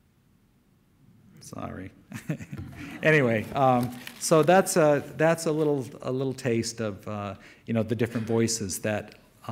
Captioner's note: light audience laugter